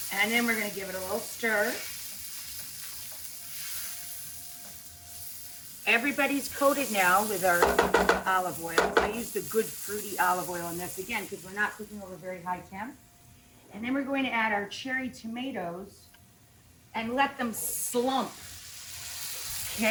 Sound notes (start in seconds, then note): 3.8 food sizzling in the pan; 8.8 clunking sound